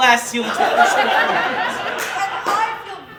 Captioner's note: audience Laughing